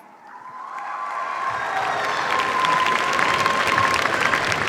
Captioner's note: cheers, applause